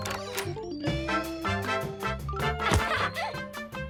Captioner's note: doorbells dings; door opens; Lizbeth laughs